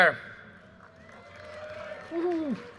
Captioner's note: audience cheers and applause